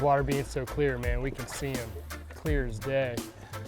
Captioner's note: pole whooshing